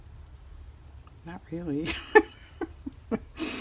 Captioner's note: laughs